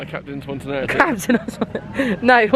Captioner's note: laughs